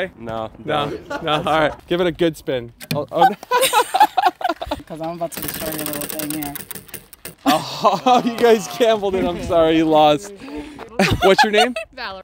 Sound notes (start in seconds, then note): 3.2 lady laughing; 5.2 wheel whirring